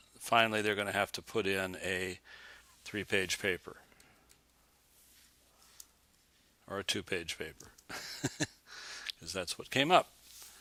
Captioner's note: chuckles